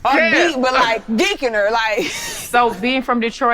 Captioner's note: woman laughing